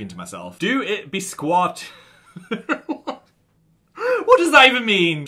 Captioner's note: laughs